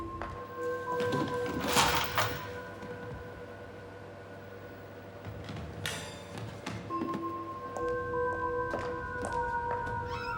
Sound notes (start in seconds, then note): 1.5 chains rattling